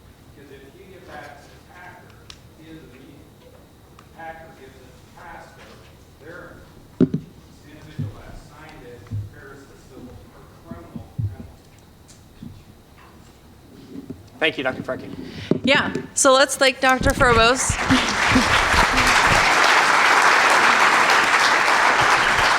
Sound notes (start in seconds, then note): 2.8 speaking faintly; 7.8 mic clacking; 11.7 speaking faintly; 16.8 audience clapping